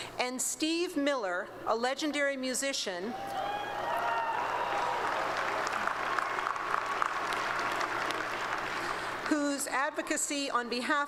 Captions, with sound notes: And Steve Miller, a legendary musician. [ Applause and Cheering ] Whose advocacy on behalf